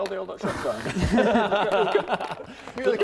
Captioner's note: self-promo giggles